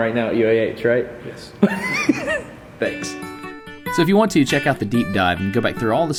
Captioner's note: laugh